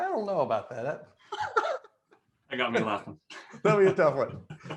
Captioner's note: laughs